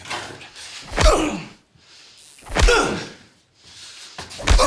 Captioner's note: punches thudding